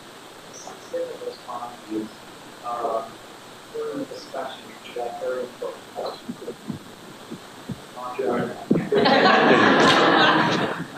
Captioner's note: laugher